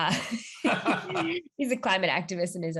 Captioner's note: both laughing